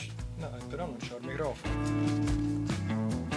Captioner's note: non-english speech